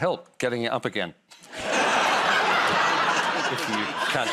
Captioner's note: laughter